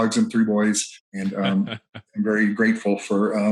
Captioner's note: chuckles